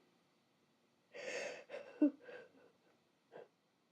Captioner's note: cries